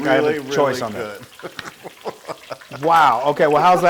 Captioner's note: laugh